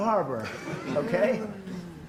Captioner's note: laughter